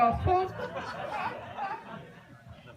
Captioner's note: laughter